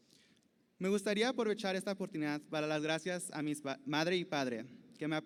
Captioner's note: speaking Spanish